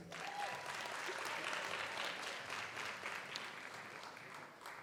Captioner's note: audience applauds